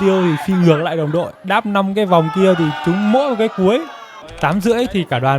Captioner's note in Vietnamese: la hét